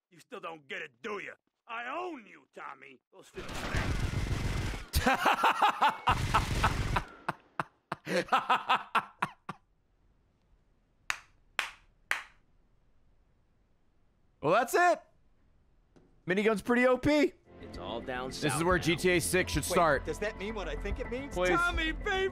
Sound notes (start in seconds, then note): 5.0 laughs; 5.0 claps